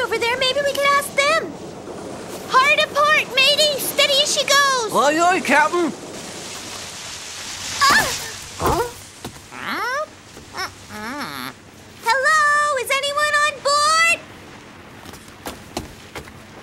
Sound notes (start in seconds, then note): 8.8 dog yelps; 9.9 meows